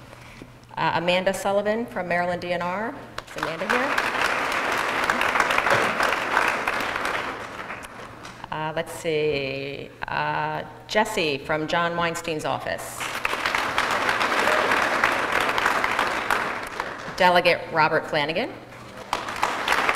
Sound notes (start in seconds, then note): 3.2 applause; 13.0 applause